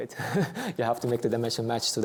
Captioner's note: chuckles